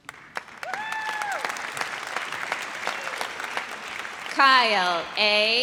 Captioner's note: audience applauds